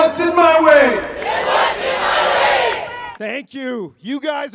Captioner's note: crowd